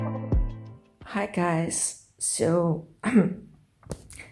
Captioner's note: caugh